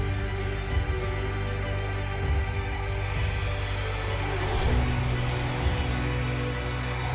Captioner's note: machine whooshing